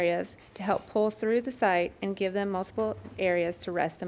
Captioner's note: none